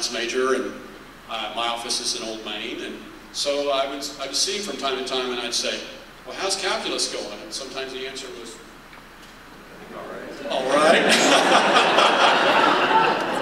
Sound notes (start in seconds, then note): 9.1 laughter